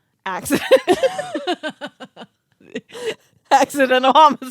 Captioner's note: girls laughing